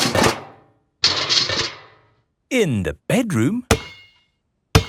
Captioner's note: banging